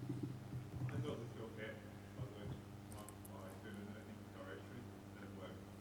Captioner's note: man speaks softly